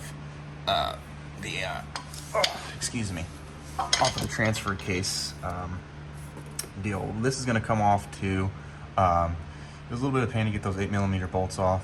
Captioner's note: grunts